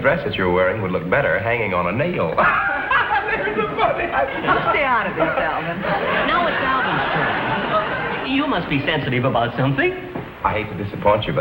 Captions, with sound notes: that dress that you're wearing would look better hanging on a nail. (laughs hysterically) That was so funny! - Stay out of this, Alvin. - Now it's Alvin's turn. You must be sensitive about something. - I hate to disappoint you